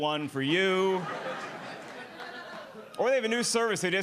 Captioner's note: audience laughing